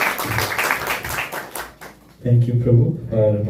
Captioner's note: applause